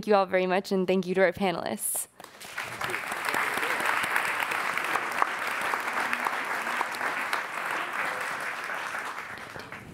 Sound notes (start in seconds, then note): 2.1 applauding; 5.8 murmuring